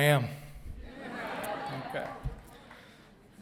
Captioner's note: audience responding